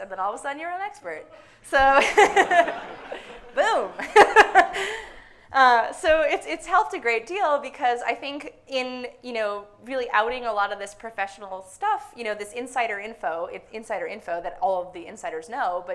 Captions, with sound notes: And then, all of a sudden, you're an expert. [audience laughs] So, [laughs] boom! [laughs] So it's helped a great deal because, I think, in really outing a lot of this professional stuff, this insider info, the insider info that all the insiders know